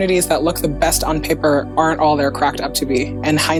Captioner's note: none